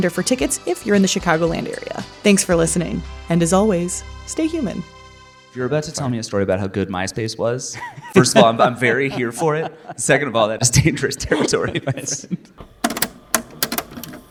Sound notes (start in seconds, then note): 5.3 theme music plays; 12.6 cassette player clicks closed